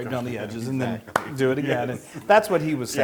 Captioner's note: laugh